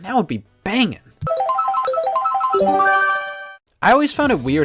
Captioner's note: Mario Kart item roulette sounds